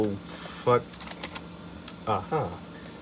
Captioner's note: soft keyboard typing